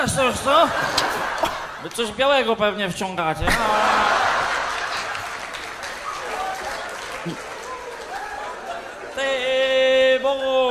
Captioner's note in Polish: Aplauz